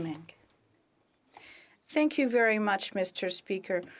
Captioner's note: speaking French